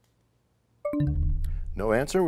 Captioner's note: bell chimes, time expires